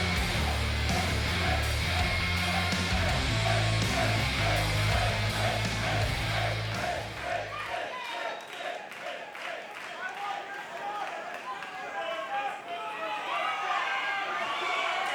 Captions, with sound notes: (music fades) Finn! Finn! Finn! (crowd clamors)